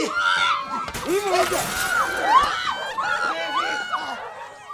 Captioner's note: glass shatters